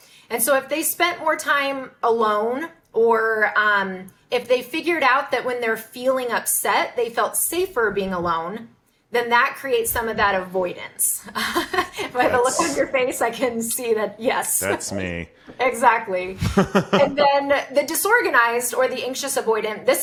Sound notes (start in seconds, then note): 11.8 laughs; 16.3 laughing